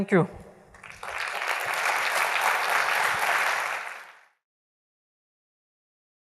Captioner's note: applause